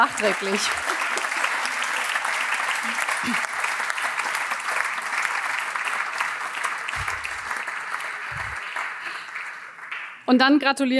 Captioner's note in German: Allgemeiner Beifall